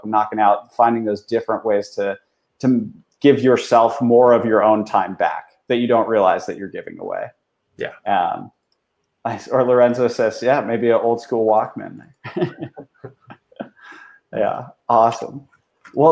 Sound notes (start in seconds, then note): 12.1 both laughing